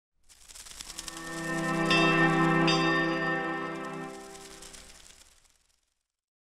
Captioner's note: fire crackling; soothing music